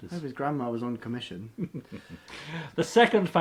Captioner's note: chuckles